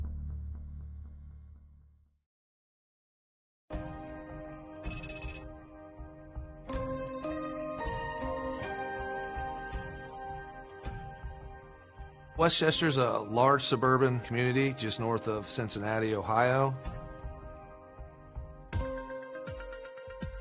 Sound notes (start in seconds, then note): 3.6 gentle music; 4.9 text whirring; 6.6 inquisitive music; 16.7 gentle upbeat music